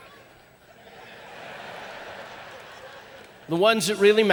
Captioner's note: audience laughing